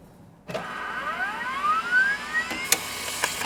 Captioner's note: engine whirs; keyboard clacks